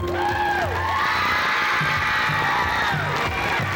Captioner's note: cheers, applause